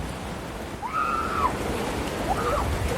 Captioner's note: excited screaming